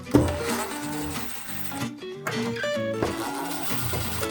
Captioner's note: drill whirs